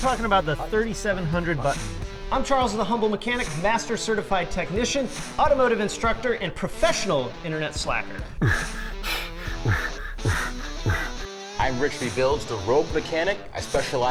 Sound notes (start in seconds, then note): 8.2 beat boxing